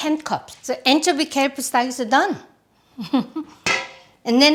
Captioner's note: laughs